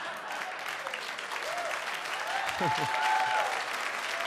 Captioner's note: audience laughs; audience cheers